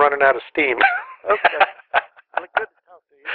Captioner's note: laughter